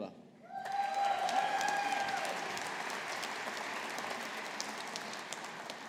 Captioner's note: audience applauding